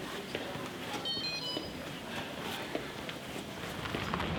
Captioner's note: phone beeps